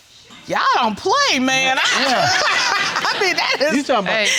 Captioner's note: laughing